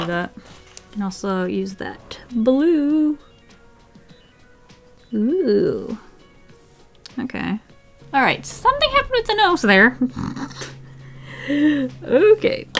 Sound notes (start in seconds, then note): 8.6 laughs